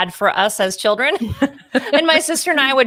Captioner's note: laughs loudly